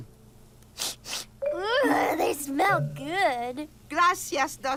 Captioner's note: sniffing